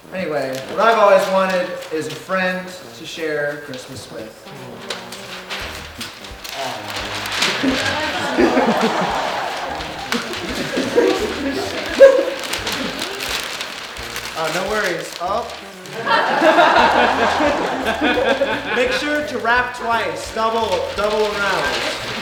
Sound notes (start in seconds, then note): 4.7 paper crinkling; 8.5 audience laughing